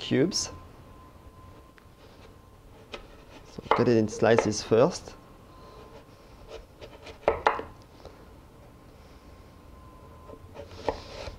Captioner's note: cutting sounds